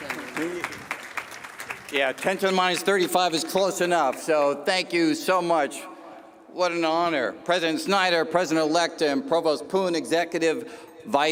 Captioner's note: cheers and applause